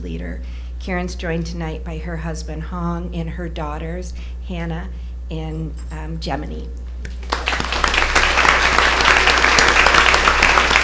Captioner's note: applause